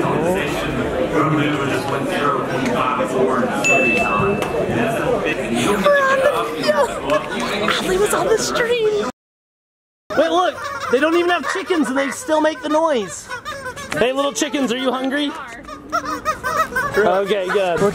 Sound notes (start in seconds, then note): 3.6 bell dings; 5.7 laughs; 13.3 kids squawking